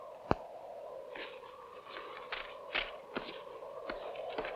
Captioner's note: wind howling